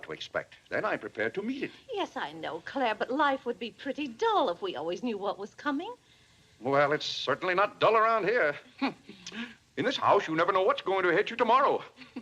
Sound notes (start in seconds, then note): 8.8 scoffs